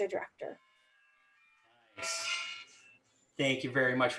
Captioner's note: phone ringing